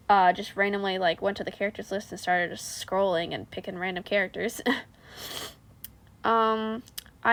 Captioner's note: undignified sniff